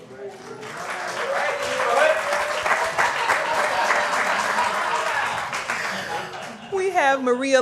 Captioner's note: applause